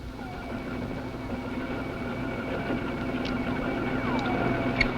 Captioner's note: electrical humming